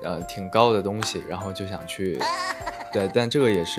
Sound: hahaha

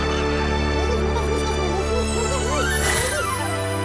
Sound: dwarves chattering

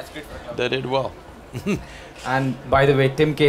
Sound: laughs

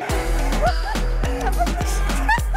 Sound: laughs

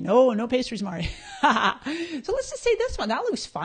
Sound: laughing

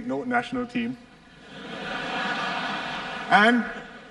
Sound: laughter

